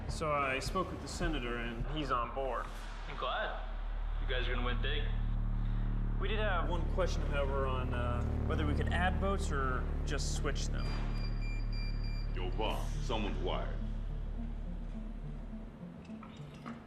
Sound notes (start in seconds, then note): 9.8 tech beeping; 14.3 tense music